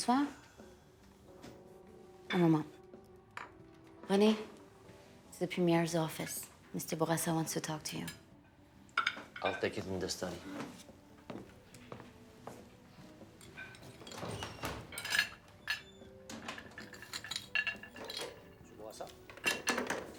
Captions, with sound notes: (speaking foreign language) - Rene, it's the Premier's office. Mr. Bourassa wants to talk to you. - I'll take it in this study. (heels clanking) (door squeaking) (cutlery clanking) Bourassa?